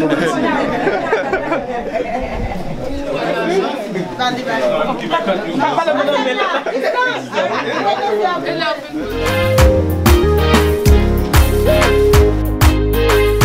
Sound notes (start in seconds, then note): 0.0 people laughing; 2.8 multiple people chattering in conversation